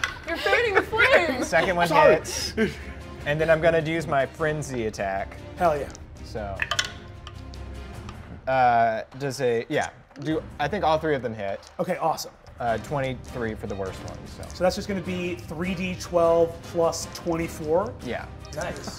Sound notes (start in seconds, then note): 6.6 dice clicks